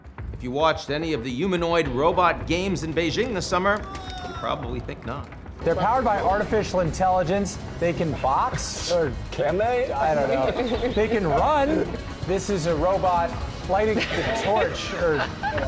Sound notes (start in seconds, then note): 3.8 people screaming; 9.8 people laughing; 13.9 person laughing